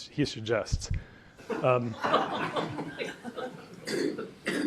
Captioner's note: audience laughs